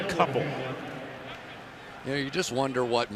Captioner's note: pa announcement